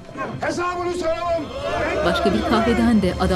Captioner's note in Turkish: Hep bir ağızdan